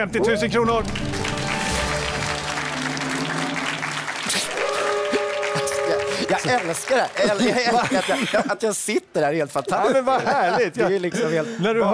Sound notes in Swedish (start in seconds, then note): 2.4 Applåder